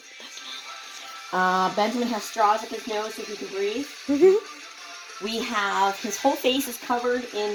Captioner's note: giggles